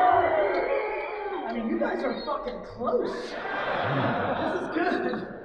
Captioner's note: audience laughing